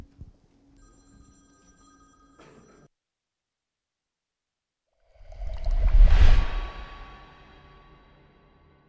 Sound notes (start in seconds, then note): 0.9 ringing; 5.1 intensifying swooshes